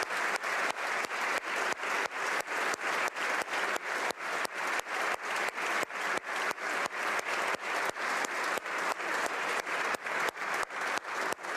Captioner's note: applause